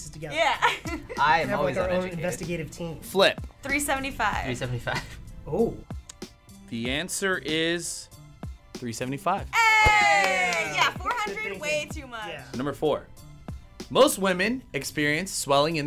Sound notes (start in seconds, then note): 0.6 laughs; 4.9 chuckles